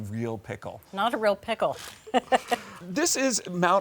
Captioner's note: laughing